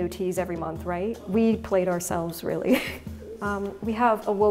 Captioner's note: chuckles